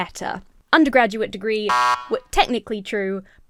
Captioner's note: buzzer buzzes